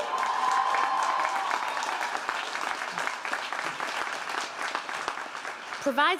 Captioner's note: audience cheering and applauding